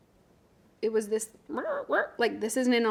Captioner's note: speaks gibberish